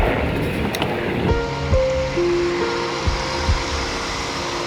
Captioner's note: vehicle approaches